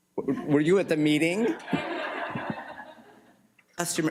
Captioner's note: laughter